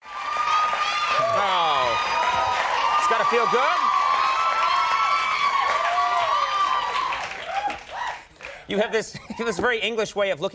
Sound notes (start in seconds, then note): 0.0 audience cheering; 3.9 audience applauding